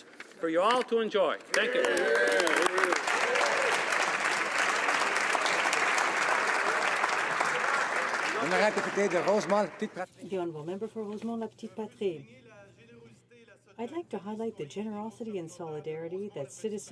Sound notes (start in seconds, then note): 6.8 some Applause